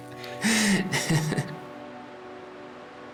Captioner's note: laughs; waves crashing; pensive music